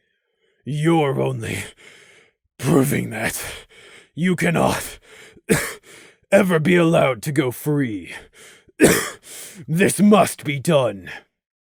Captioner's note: gasp; cough